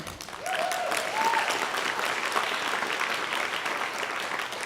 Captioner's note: audience cheering